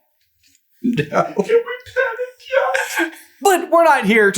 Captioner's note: chuckling; whimpering